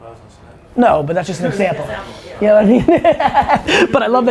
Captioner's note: laughs